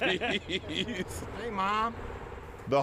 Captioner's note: laughs